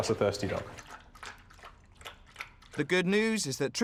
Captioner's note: dog slurping